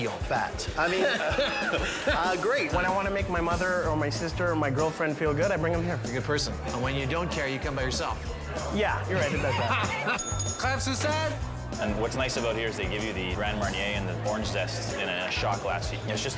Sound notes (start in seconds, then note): 0.7 laughing; 9.1 laughing; 10.1 bell dings